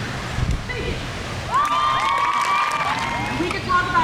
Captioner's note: crowd cheers